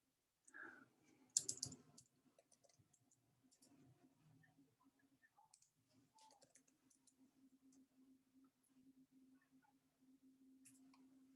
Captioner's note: silence